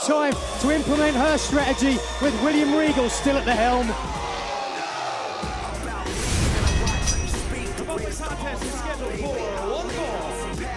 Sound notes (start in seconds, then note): 6.6 bell ringing